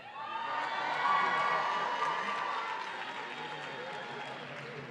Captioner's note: audience cheering